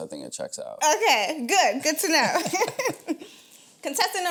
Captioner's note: laughs